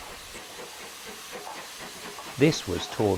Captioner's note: train passes